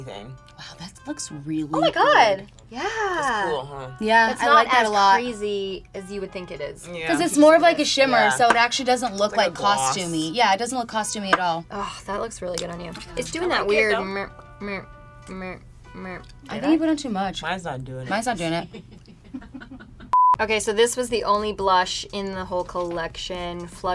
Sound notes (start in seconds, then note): 14.0 smacking lips together; 18.4 laughing